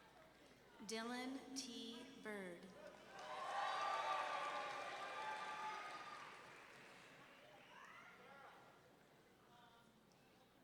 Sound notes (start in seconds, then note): 3.1 audience members cheering